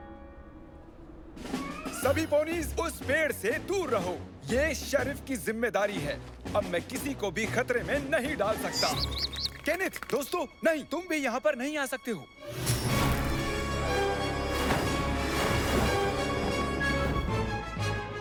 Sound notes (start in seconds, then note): 8.6 chirping; 12.2 tense music